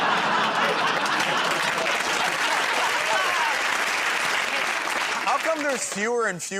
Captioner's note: laughter; applause